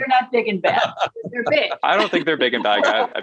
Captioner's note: laughs